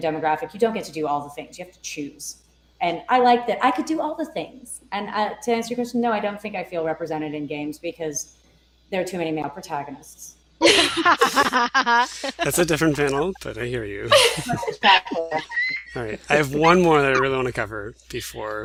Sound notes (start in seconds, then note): 14.5 laughter